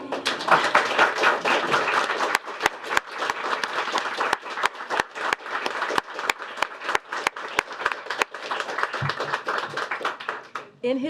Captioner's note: applause